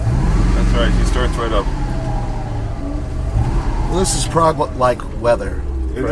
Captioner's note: none